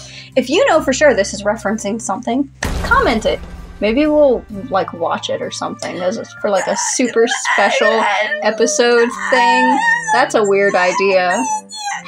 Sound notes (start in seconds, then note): 2.6 crash; 6.5 reluctant Grunts; 9.0 reluctant Squeaks